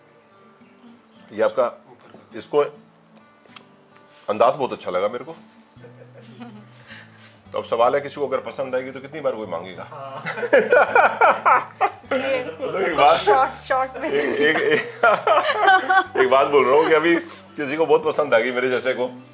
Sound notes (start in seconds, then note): 10.1 laughter